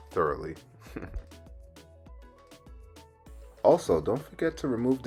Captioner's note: laugh